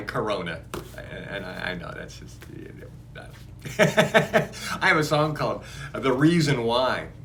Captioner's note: laughs